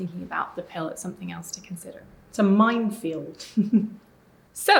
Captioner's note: chuckling